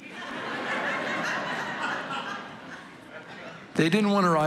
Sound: congregation laughing

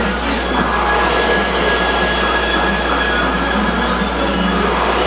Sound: rower roars lightly

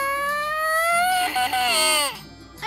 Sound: crying

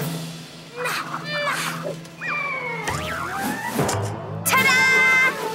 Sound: Peanut exclaims

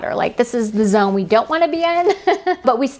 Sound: laughs

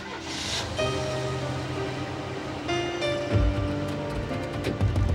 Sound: engine starts

